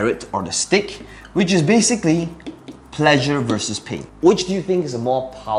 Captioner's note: tapping marker